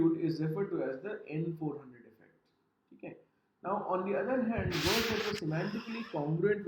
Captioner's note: professor speaks in Hindi